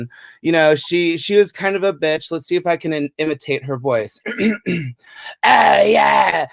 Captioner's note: clears throat